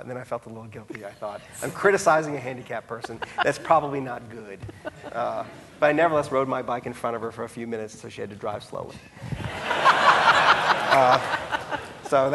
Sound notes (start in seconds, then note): 4.6 laughing; 9.4 audience laughing